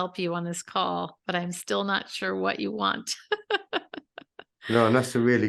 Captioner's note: laughs